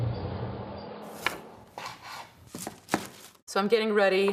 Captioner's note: chopping food